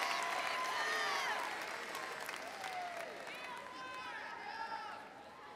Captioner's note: overlapping chatter